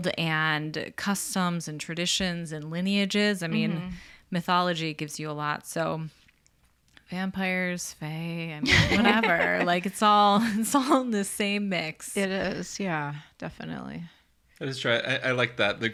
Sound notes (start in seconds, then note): 8.7 laughs